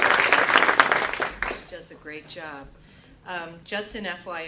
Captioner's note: applause